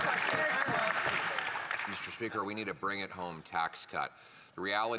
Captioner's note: applause